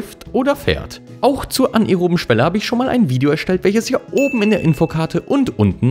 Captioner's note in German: ding